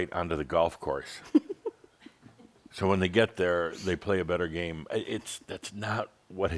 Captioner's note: giggles